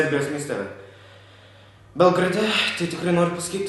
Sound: breath

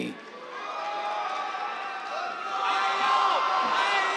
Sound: cheers, applause

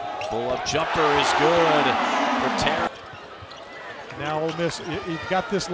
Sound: crowd cheering

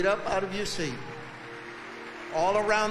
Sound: audience applauding

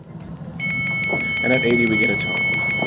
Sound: alarm

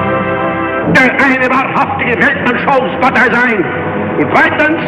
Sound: Hitler speaking German

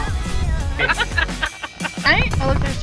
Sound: laughter

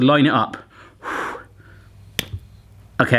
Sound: taking a deep breath

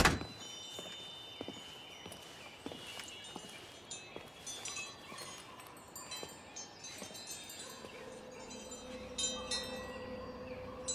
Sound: wind chimes

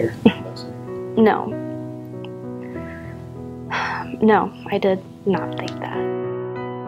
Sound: sighs

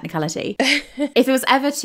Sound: laughing

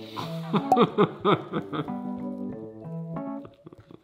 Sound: laughs

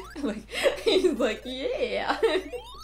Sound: laughing

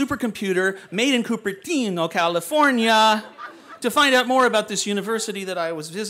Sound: laughter

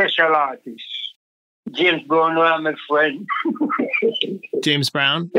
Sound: laughs

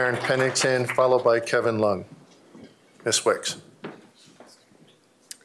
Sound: applause

